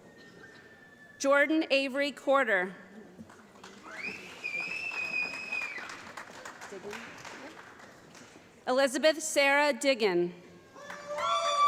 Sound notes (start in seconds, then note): 3.2 applause